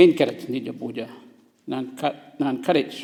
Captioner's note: foreign language